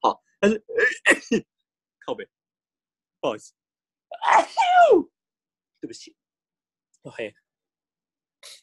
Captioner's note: cough cough